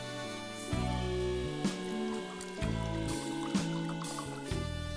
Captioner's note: splashing